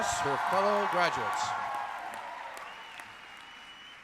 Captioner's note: cheering